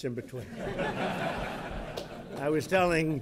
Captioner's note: laughter